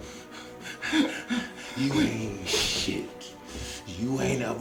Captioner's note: scared breathing